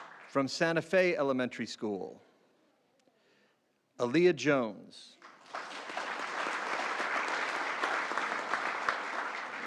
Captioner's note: applause